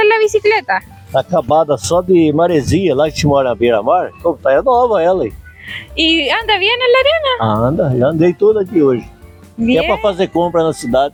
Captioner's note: laughs